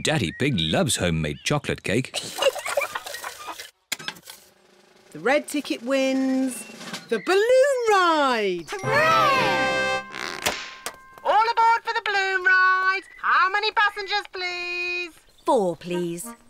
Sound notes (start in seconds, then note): 2.1 giggles